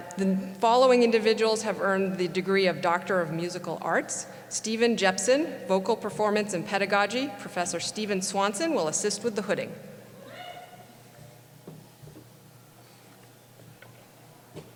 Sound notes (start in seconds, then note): 10.3 cheering